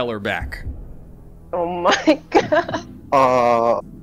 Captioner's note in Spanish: risa nerviosa